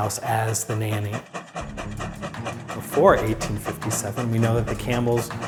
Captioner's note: train chugs